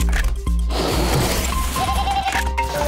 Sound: bleating

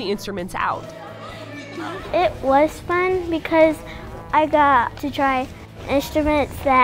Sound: kids Laughing

